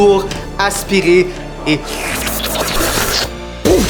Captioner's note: whirlwind sound